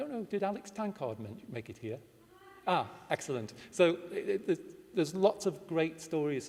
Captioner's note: distant shout of yes!